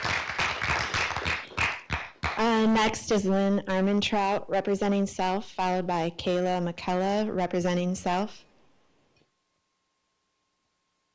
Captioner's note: applause